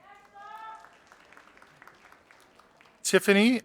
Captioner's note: audience applauding